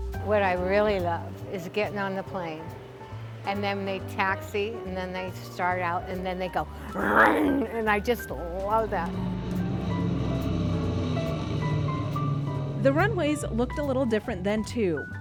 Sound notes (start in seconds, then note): 9.1 airplane engine roars